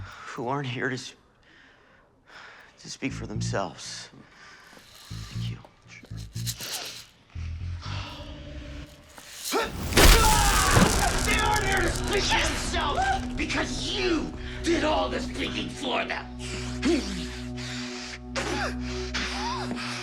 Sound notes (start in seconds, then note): 9.6 yells; 17.0 breathing heavily